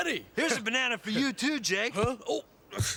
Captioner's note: thud